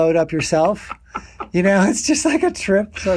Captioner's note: continues laughing